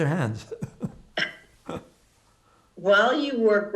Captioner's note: laughing